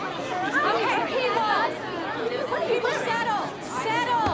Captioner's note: people talking